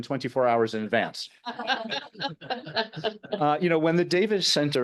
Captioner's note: all laughing